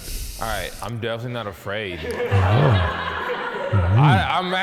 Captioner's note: laughs